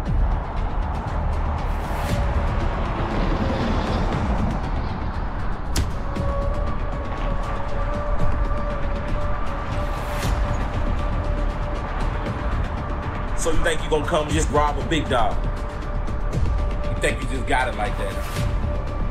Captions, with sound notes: (dramatic music continues) (punch thudding) So you think you just gonna come and rob a big dog? You think you just got it like that?